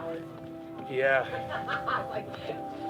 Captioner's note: laughing